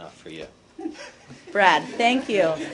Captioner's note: laughter